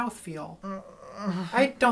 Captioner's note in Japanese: うめき声